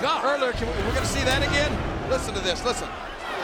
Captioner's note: air whooshing